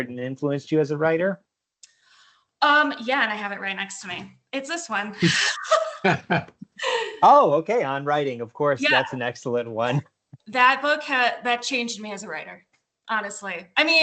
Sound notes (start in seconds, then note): 5.2 laughter